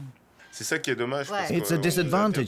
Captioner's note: speaking French